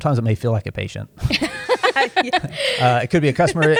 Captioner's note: laughter